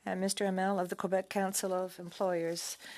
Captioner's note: speaking French